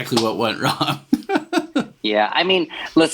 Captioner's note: laughs